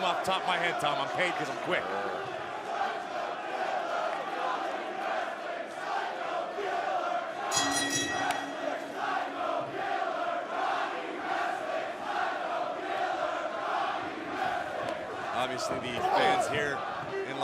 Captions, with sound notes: >> HOW MANY OF THESE HAVE YOU READ NOW? >> COMING OFF THE TOP OF MY HEAD, TOM, I'M PAGING QUICK. [FANS CHANTING] [BELL RINGING] >> OBVIOUSLY, THESE FANS HERE IN